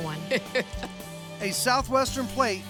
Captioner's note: chuckling